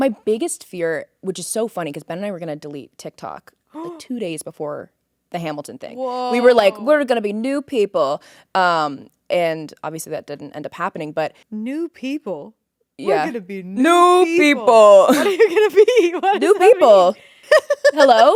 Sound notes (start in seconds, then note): 15.0 laughing; 18.1 Courtney laughing